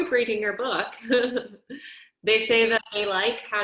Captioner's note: chuckling